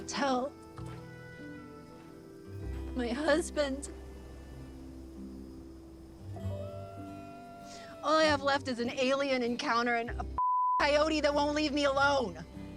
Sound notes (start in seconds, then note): 6.4 coyote howling in distance